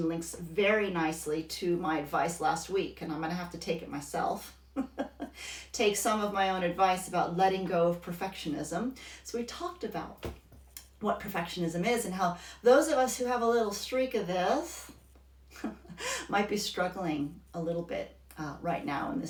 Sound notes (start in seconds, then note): 4.7 laughs